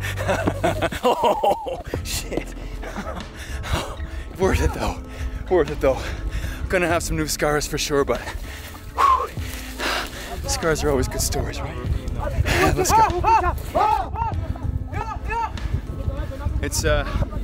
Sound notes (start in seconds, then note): 0.0 laughing; 12.2 men yelling